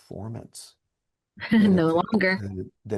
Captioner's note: laughs